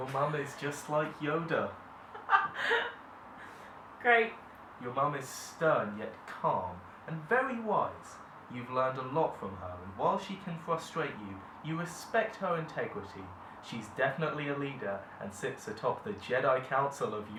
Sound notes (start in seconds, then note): 2.0 laughs